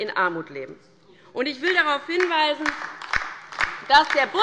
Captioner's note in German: Beifall bei der LINKEN